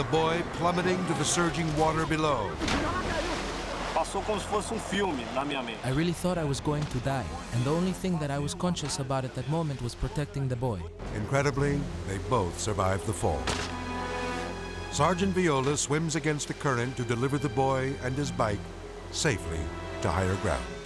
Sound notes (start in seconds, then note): 2.7 water splashes; 4.1 speaks foreign language; 13.4 cable snapping